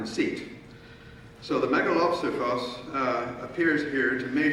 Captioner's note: speaking in foreign language